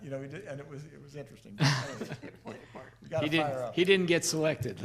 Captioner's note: laughing